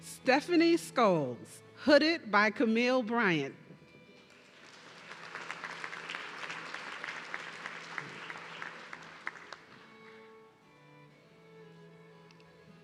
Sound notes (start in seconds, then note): 4.2 audience clapping